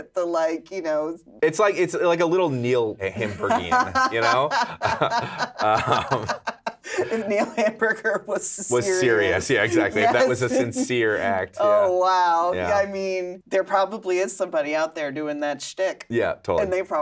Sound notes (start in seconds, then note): 4.7 laughing